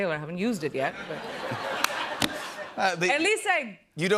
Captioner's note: laughter